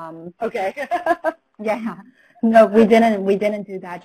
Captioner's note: laughs